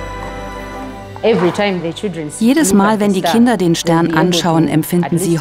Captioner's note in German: englisch